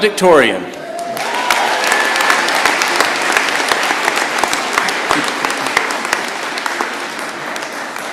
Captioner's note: applause